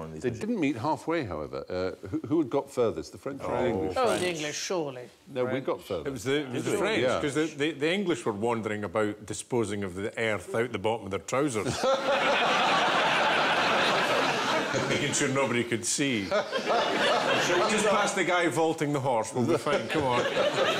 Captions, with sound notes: They didn't meet half-way, however. Er, who had got furthest? The French or the English? Oh, the English, surely. No, we got furthest. It was the... it was the French, because the English were wandering about disposing of the earth, out the bottom of their trousers. *laughter* Making sure nobody could see. "Just past the guy vaulting the horse. We'll be fine, come on."